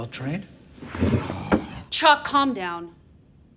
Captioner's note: Chuck growling